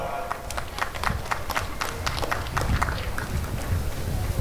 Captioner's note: applause and cheering